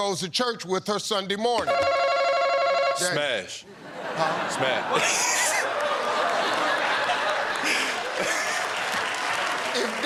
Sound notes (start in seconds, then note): 3.9 laughs; 5.9 laughter